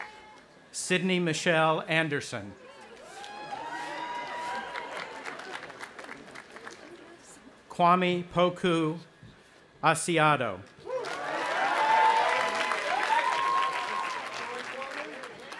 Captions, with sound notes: Sydney Michelle Andersen. (cheering) Kwame Poku Asiedu. (audience applauding and cheering)